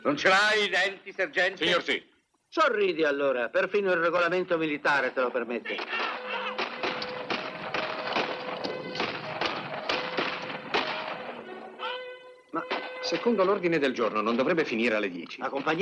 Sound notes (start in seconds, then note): 5.8 bugle sounds, gunfire